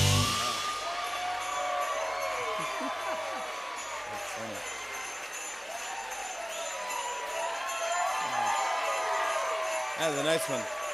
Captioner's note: cheers and applause